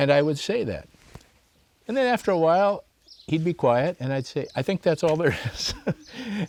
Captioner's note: laughs